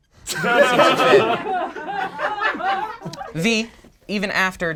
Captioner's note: group laughs